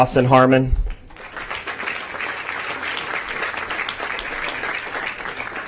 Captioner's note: applause